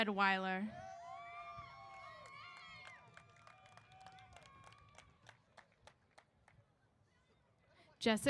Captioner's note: applause & Cheers